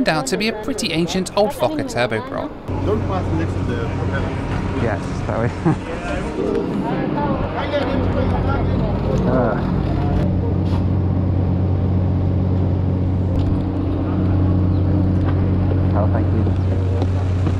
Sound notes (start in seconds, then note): 5.3 chuckles